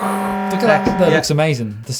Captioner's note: klaxon sound